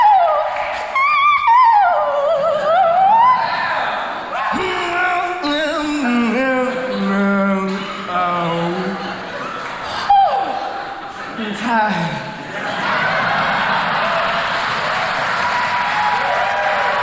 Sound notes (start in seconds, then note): 10.2 sighs; 12.4 crowd cheering